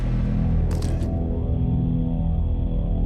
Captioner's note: camera shutter click